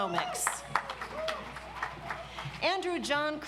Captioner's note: audience applauds